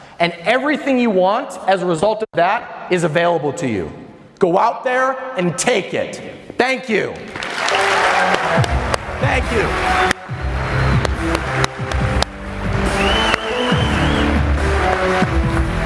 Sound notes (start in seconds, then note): 7.7 audience applause; 11.3 upbeat rock music